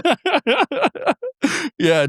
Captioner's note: both laughing